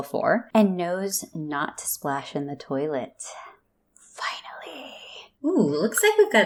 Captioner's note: relieved whisper